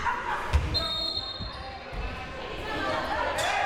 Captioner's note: whistle